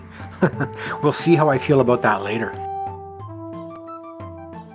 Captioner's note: chuckles